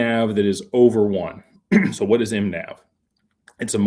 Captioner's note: clears throat